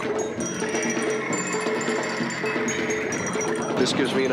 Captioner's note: water sloshing